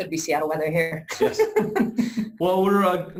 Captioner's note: laughs